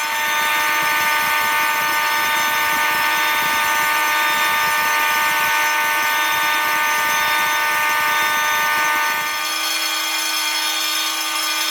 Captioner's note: alarms Sound